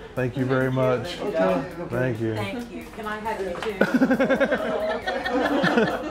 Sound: laughing

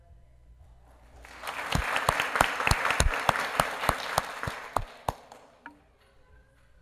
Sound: applause

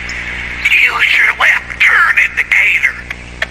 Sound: whispering; indicator ticking

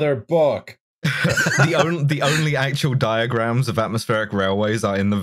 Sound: laughter

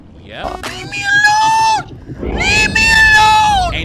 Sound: video buzzes

